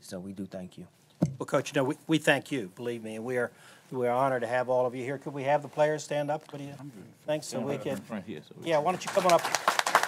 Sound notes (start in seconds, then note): 8.9 applause